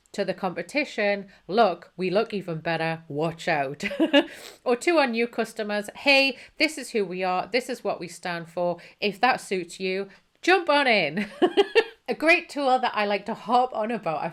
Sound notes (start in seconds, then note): 3.8 chuckles; 11.4 laughs